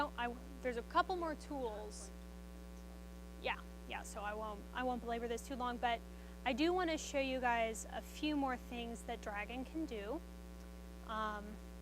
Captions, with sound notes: There's a couple more tools ... - (speaks faintly) - Yeah, yeah so I won't go over this too long, but I do want to show you guys a few more things that Dragon can do.